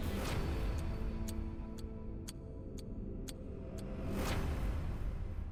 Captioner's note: clock ticking